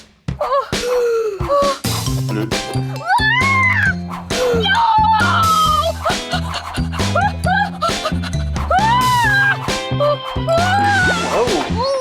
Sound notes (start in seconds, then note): 4.4 Blueberry screams; 6.0 Blueberry hyperventilating and screaming